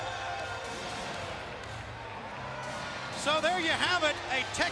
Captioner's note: crowd chatter